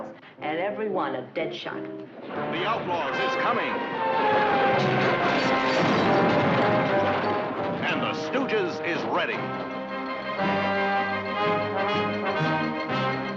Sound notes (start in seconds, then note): 5.5 bangs; 10.3 dramatic music